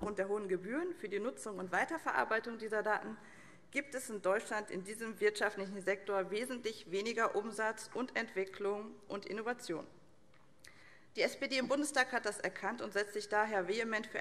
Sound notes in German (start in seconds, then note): none